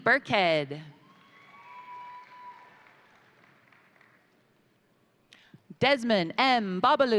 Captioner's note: crowd cheering; crowd applauding